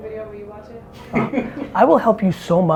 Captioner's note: laughs